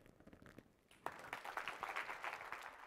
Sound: applause

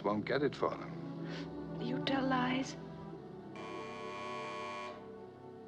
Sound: phone Buzzing

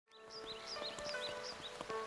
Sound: birds chirping

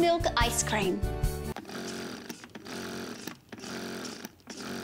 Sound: whirring and pumping

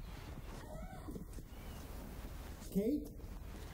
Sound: Kate screams

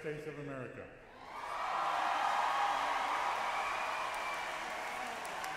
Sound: audience cheers wildly and applauds

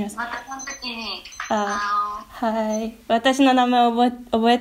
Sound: timer sound

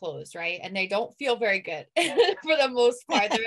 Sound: laughs

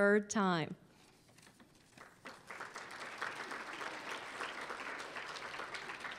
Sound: applause

